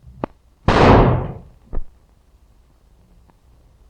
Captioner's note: gun firing